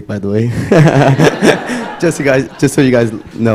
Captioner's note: laughter